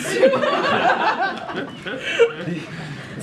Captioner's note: laughter